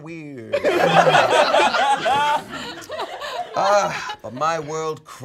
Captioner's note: all laughing